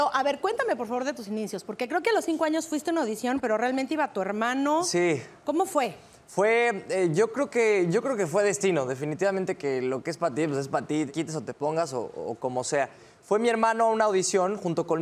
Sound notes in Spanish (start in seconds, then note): none